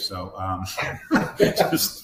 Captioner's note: laughing